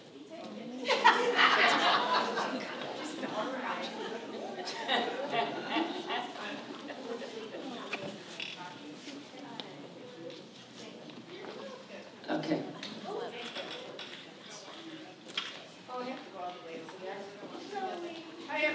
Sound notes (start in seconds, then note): 0.9 laughs; 3.8 crowd chatting; 13.2 crowd chatting